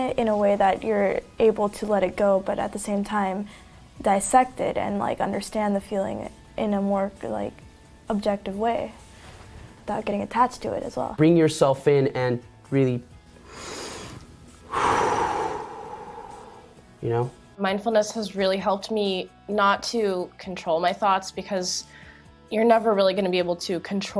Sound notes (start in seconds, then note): 14.6 sigh